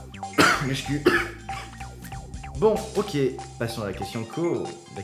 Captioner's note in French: tousse